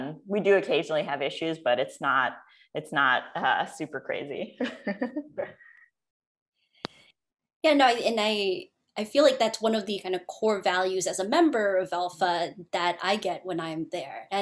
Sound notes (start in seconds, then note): 4.6 laughter